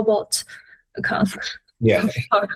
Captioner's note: laughs